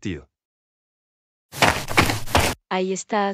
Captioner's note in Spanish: FX - Footsteps - On Multiple Dirt - Run